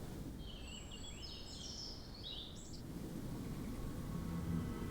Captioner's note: birds tweeting